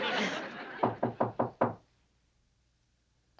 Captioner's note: knocking